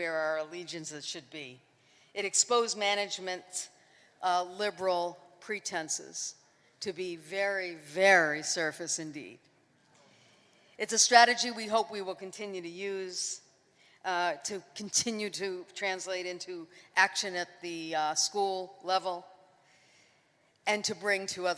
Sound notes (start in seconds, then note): none